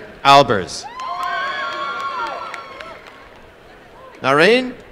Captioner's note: applause and cheering